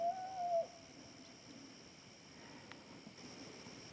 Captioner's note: elk bugles